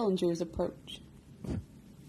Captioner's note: woosh